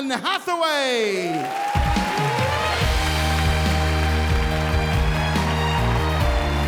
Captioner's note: audience applauding and cheering